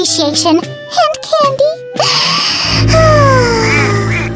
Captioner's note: sighs